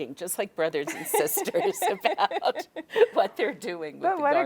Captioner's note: both laughing